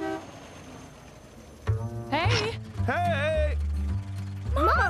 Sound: honking

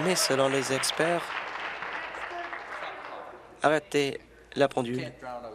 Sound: applause

